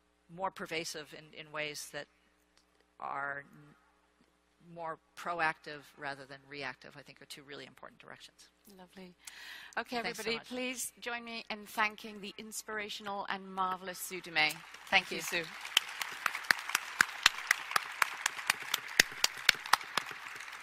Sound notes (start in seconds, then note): 16.4 audience applauds